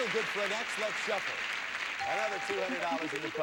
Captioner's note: audience applauding